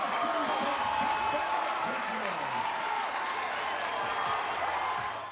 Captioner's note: crowd continues cheering